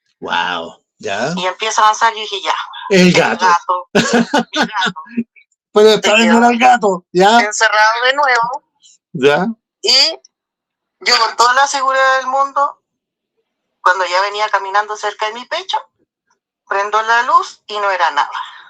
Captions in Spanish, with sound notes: Wow. Ya. Y empieza a avanzar. Yo dije, "Ya el gato, el gato, [risas] el gato, pero esta vez no era el gato. Ya, encerrado de nuevo, ya. Y yo con toda la seguridad del mundo, cuando ya venía caminando cerca de mi pecho, prendó la luz y no era nada.